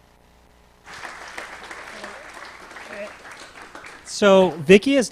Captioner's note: applause